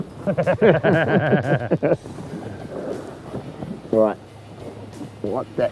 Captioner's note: laughter